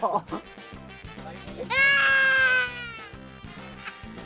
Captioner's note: crying